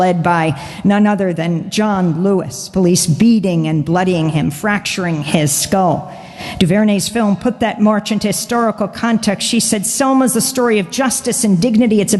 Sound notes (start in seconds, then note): none